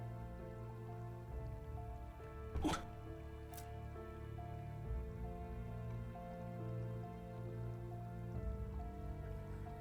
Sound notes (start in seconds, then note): 2.6 Charles grunts